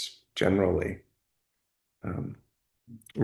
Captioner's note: pause